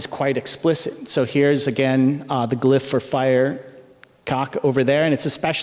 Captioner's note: non-english speech